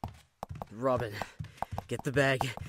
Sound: footsteps

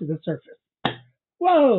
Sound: thump

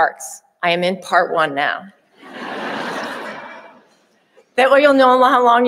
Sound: audience laughing

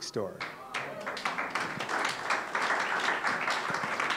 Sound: audience applause

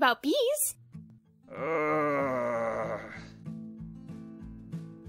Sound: long painful moan

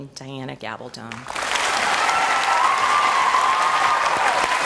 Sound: audience applause and cheers

